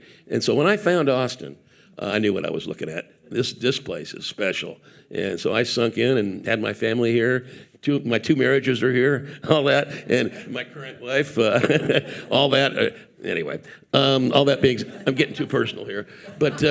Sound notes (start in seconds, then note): 11.4 laughing; 14.6 audience laughing